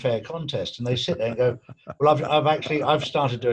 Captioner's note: laughing